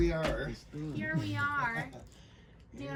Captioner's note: laughs